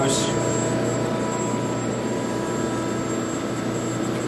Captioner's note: machine whirring